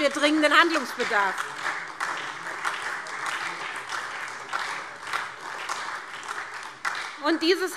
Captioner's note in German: Beifall SPD